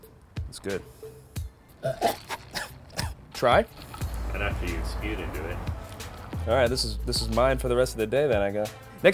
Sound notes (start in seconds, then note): 1.8 coughing